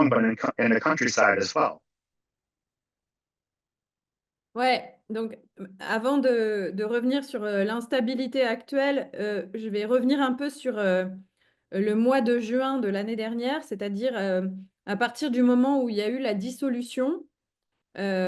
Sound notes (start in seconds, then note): 4.7 speaking in French